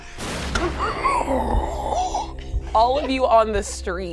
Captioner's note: inhales sharply